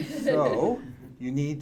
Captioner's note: audience laughing